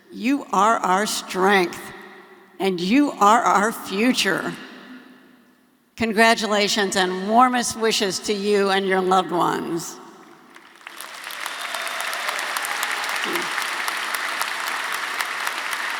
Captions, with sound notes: You are our strength, and you are our future. Congratulations and warmest wishes to you and your loved ones. (audience applauding)